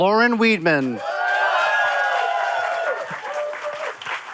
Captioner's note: cheering, applause